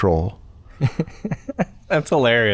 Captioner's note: chuckles